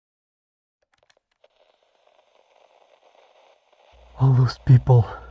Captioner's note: static